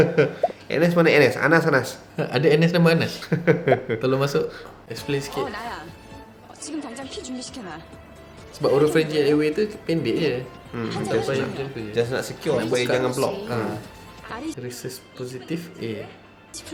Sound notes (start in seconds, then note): 3.3 ekekeke